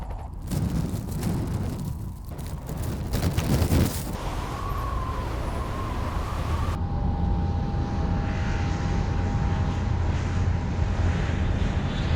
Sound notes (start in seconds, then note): 0.0 helicopter blades whirring; 0.3 wind roaring; 4.1 wind blowing; 7.2 plane engine roaring